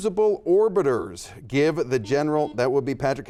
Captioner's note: buzzer dings